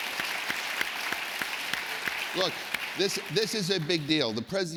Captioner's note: applause